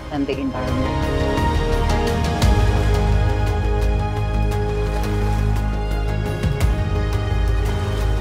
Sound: waves

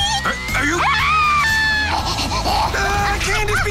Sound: screaming

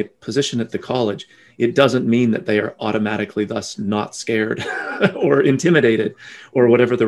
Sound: laughing

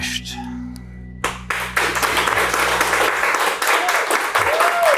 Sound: crew claps and cheers

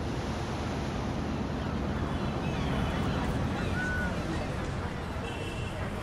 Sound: birds, people, and city noises

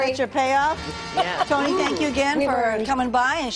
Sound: laughter

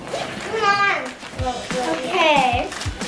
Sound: children chattering

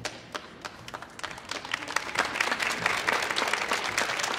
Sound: audience applauding

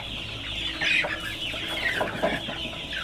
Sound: chicks peeping

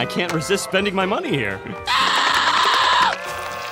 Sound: screaming

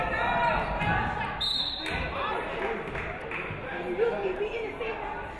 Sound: referee whistles

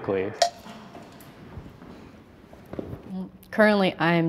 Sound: timer ticking

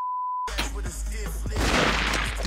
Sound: spits; gunshots

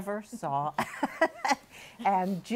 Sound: laughs

